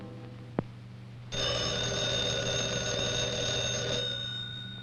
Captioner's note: phone Ringing